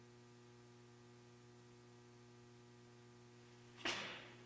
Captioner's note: light humming